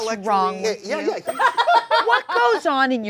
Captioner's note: laughs